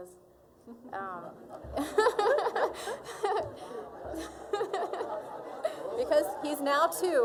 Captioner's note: all laughing